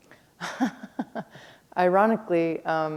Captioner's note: chuckle